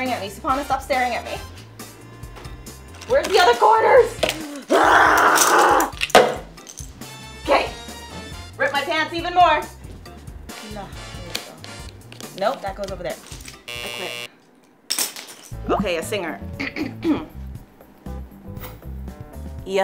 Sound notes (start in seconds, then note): 2.4 upbeat music continues; 5.3 puzzle pieces clatter; 6.0 bowl clunks; 13.6 buzzer sounds; 16.6 Francia clears her throat